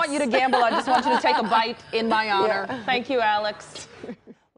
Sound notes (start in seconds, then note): 4.0 laughter